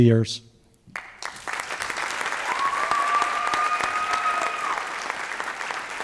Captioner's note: applause